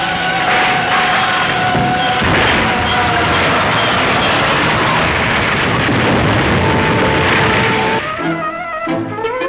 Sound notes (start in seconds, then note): 0.5 crashing; 2.0 explosions